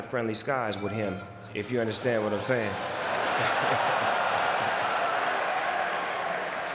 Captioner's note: laughs